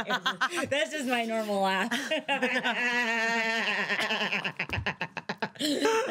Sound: laughing; continues laughing

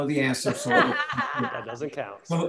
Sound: crowd laughing

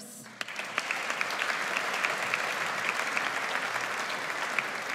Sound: audience applauds

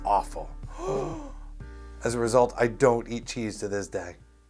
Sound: gasp

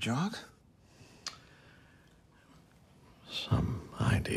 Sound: smacks lips

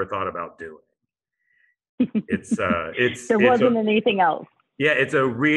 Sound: laughter

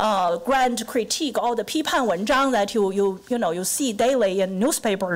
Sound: foreign language

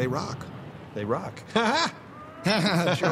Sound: laughs

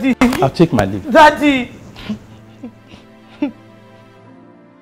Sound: sobbing

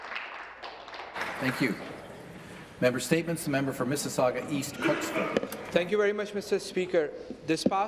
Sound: applause

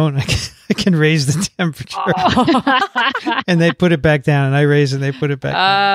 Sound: laugh

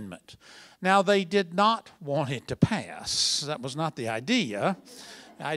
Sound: laughter

